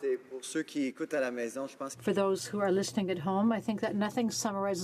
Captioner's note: speaking French